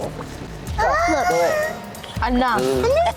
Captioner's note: baby cooing